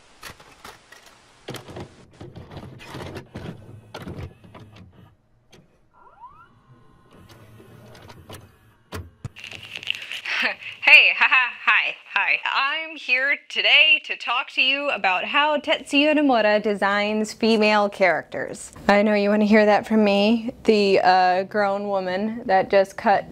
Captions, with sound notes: [VCR Starting to Play a Tape Noises] [Leather Crunches] Heh Hey! Ha ha! Hi! Hi. I’m here to today to talk to you about how Tetsuya Nomura designs female characters. I know you want to hear that from me, the uh "grown woman" that just cut